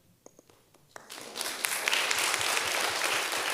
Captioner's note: applause